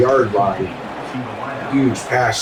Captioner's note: crowd Noises